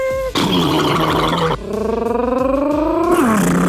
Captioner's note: James imitates blender; Laurene imitates blender; Adam imitates blender